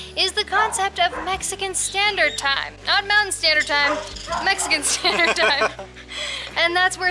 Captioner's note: laughter